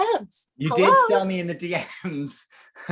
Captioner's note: laughs